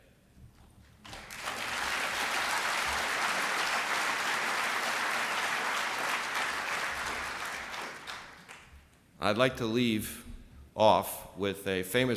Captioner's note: applse